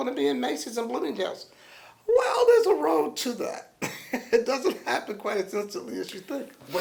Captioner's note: laughs